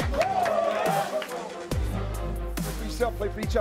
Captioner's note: cheering